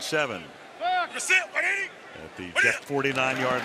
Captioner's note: players shouting